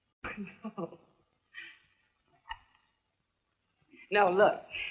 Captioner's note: laughing